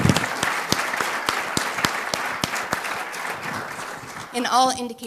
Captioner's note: applause